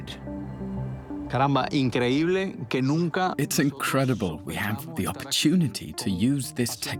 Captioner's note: Spanish dubbed into English